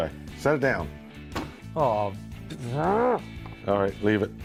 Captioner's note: groans